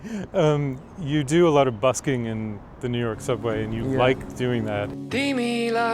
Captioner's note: laughs